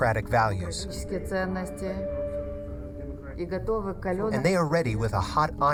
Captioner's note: speaking foreign language